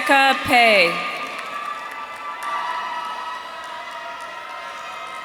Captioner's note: audience cheering